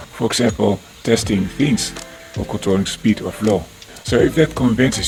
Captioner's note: fans and pumps